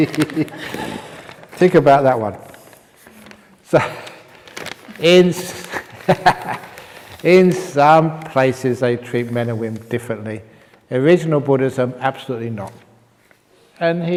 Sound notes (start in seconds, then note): 0.0 laughs; 5.4 chuckles